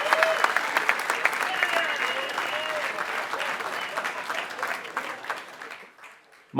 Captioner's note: applause